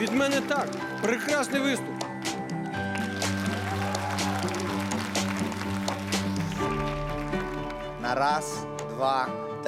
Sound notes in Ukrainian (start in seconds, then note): 6.2 оплески